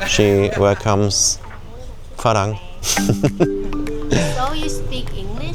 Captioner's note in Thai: เสียงหัวเราะ; เสียงหัวเราะ